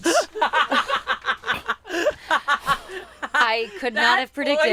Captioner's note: everyone laughs